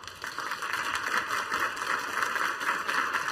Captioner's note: applause